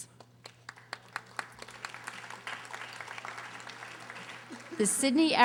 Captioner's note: audience applauding